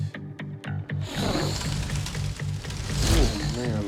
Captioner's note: fire whooshes